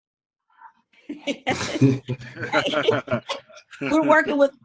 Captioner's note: all laugh